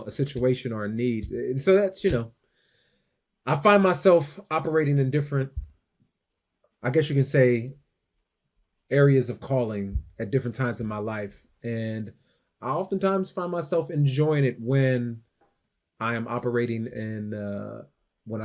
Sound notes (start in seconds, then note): none